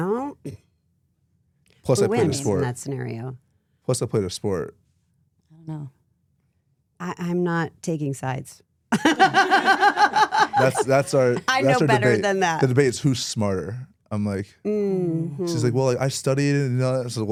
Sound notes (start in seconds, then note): 9.0 laughs